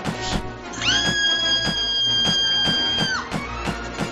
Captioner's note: screaming